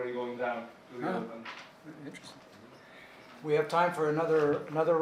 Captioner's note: murmuring